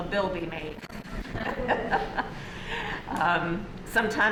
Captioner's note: laughter